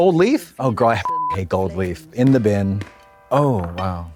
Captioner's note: beep